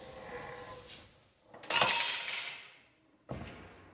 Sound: clinking

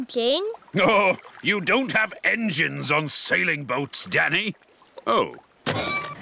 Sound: chuckling

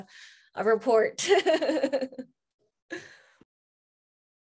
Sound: laughs

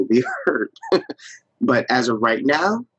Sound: laughs

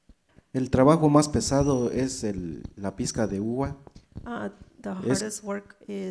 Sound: speaks in foreign language

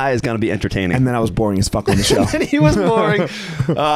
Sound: laughing

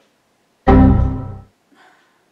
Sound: computer error sound effect

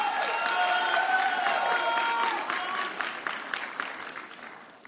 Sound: audience cheering

